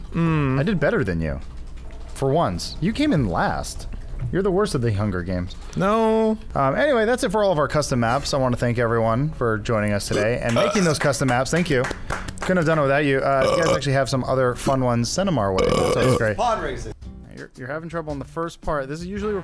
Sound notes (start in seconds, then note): 13.4 belch; 15.5 more belching